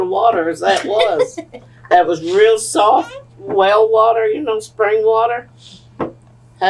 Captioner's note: laughter